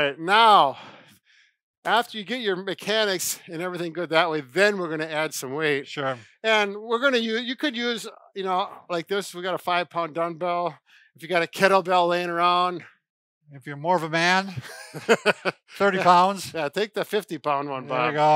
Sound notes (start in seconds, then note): 14.6 laughing